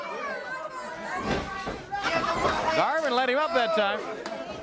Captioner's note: crowd chatter